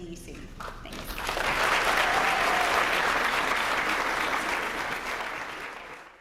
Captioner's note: applause